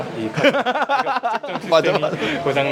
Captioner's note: laughs